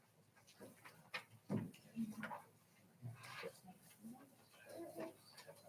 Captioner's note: people chattering